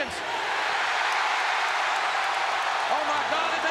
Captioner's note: crowd cheers